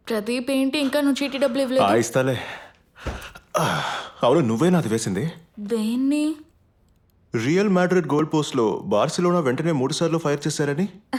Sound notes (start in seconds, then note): 3.0 door slams shut